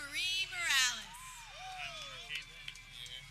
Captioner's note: people cheering